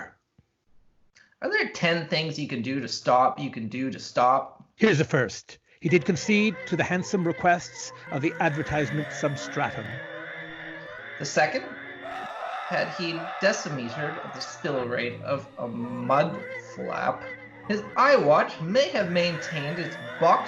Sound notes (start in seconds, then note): 7.7 whirrings and whinings; 11.1 deep screaming